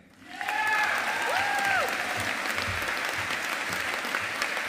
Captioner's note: audience applauding